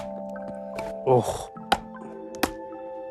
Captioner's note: groans